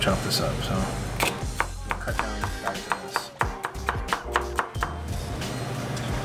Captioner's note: knife chopping